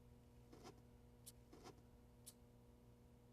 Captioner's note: rustling